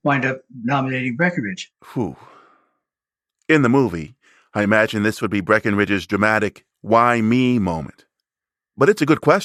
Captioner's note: sigh